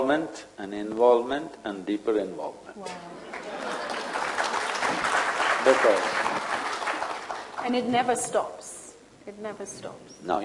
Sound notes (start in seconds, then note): 3.2 applause